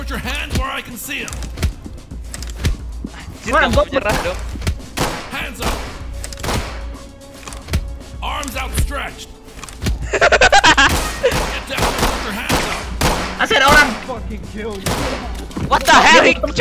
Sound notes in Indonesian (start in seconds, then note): 10.0 masih cekikikan; 10.8 tembakan pistol